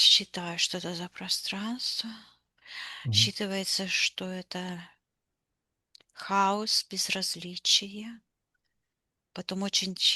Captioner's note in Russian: вздыхает; тяжело вздыхает